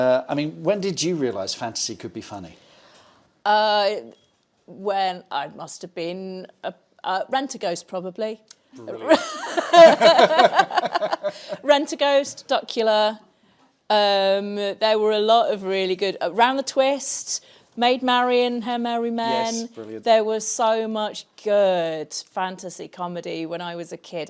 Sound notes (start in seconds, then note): 9.0 laughs